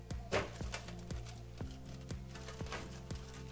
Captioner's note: mellow music; banging